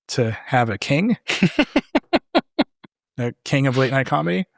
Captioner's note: laughing